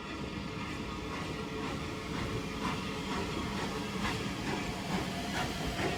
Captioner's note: train passes